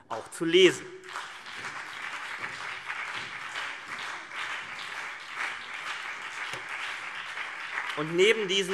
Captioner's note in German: Beifall CDU und BÜNDNIS 90/DIE GRÜNEN